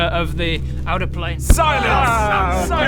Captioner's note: well-deserved thump